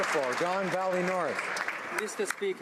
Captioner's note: SANK Applause